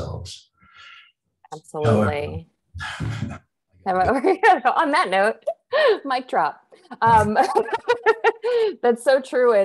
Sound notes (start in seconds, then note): 7.1 laughs